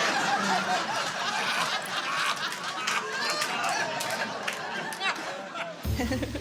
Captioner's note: laughter